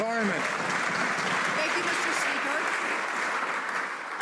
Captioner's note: some Applause